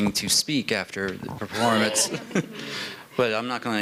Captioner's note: laughter